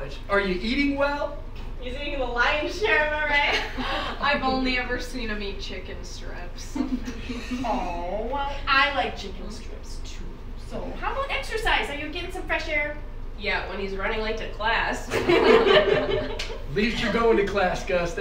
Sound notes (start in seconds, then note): 3.5 students laughing; 6.8 girls giggling; 15.1 students laughing